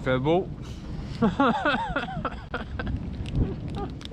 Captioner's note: laughing